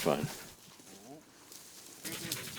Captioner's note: dog panting